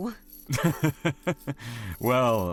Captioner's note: chuckles